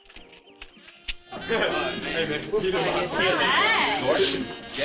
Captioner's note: teens chatting